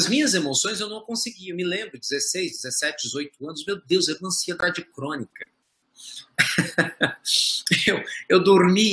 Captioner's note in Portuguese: Risos